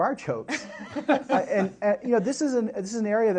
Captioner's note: laughter